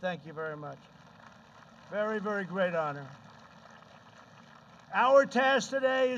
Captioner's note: applause